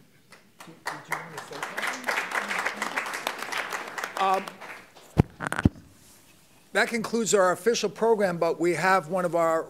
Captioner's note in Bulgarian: Аплодисменти